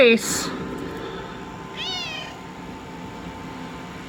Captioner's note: Caprice meows